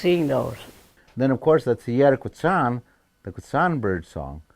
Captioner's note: speaking in foreign language